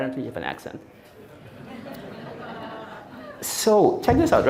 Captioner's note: audience laughing